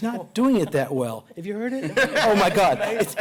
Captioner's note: laughter